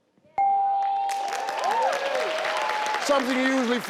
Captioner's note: audience applauding